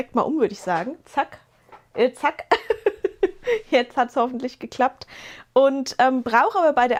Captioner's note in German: gelächter